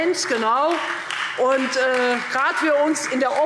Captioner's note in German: Beifall Freie Demokraten und SPD